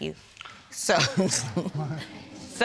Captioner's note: chuckles